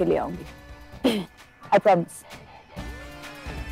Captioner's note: Clears throat